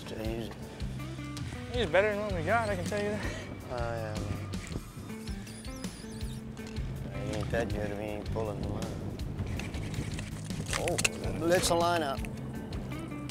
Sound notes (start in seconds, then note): 4.9 fishing pole squeaks; 9.5 fishing pole reeling